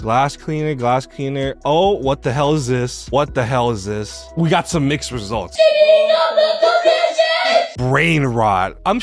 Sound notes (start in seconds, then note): 5.6 child indistinct screaming